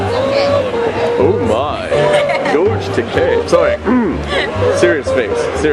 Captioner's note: George Takei voice; clears throat